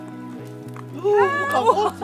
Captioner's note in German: Leises Jubeln